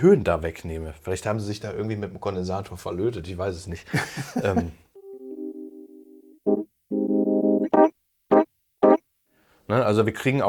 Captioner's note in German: gelächter